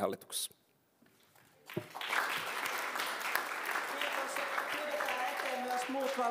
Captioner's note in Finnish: aplodit